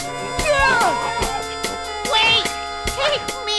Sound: gasps

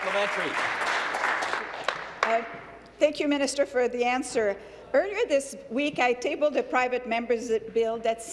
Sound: applause

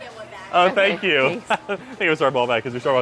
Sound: laughing

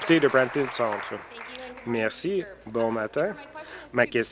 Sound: applause

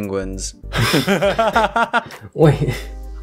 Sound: laugh

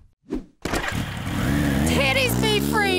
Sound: motorbike revving

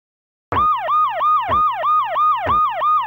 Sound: alarm

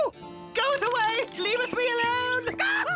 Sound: screams

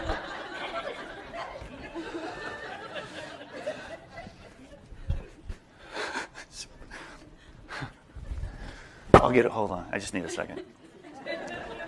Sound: laughter

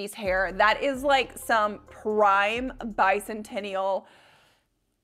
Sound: gasps

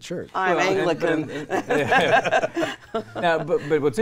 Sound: all laughing

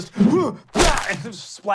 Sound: groans; splats

